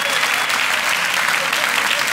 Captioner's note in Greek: χειροκρότημα